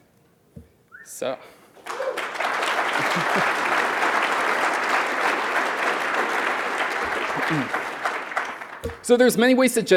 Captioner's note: applause